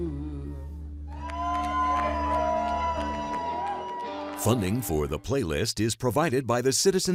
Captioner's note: cheers and applause